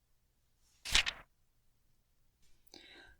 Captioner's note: page turns